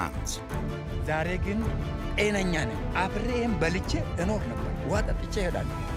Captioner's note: farmer speaking foreign language